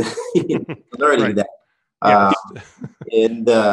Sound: laughing

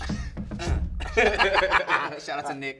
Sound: both laugh

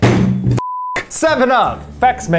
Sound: beep

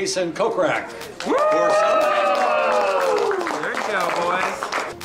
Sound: crowd cheers

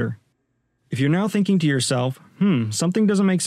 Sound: hhmmm

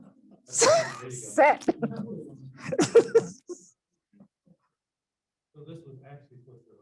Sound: laughter

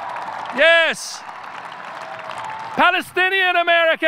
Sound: audience cheering

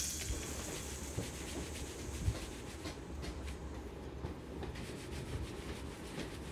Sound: clickety clack of train

